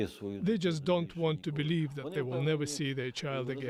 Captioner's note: speaking alternate language